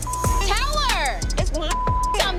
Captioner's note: beep